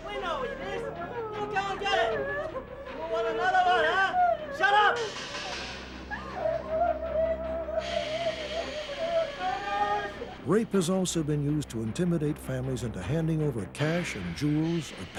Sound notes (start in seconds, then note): 6.1 women clamoring